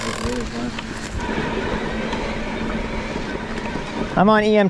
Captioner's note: bike humming